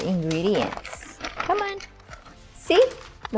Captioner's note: paper crumpling